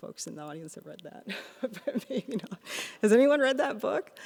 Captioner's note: laughs